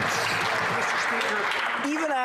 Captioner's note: some Applause